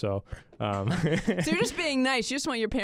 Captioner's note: chuckles